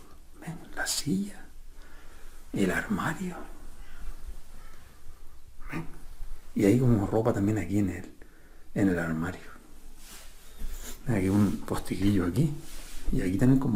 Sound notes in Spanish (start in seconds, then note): 5.6 carraspeo